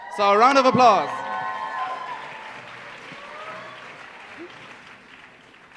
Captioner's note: cheering and applause